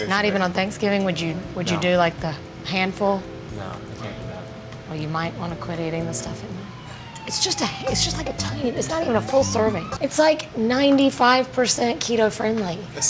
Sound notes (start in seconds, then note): 6.5 police sirens